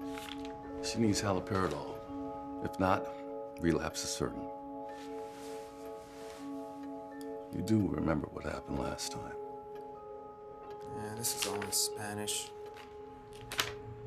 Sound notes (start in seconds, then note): none